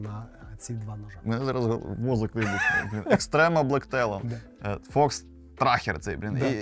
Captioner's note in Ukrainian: сміх